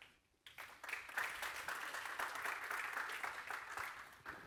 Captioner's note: audience applauds